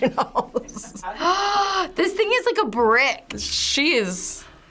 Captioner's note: gasps